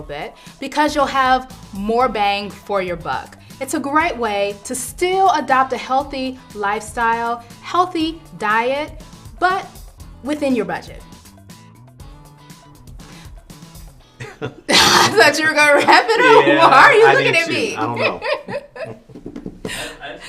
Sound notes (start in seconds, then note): 14.2 laughter; 19.2 laughs